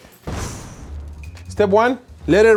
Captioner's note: boom